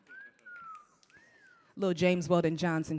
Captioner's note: panelist whistling